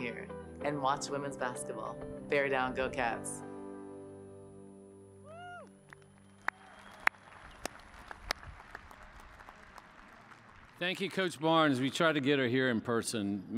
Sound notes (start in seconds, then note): 5.8 cheers and applause